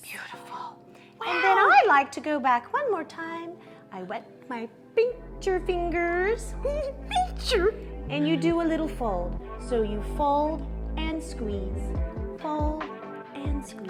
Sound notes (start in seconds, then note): 7.0 giggles